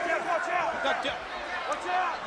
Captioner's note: crowd chatter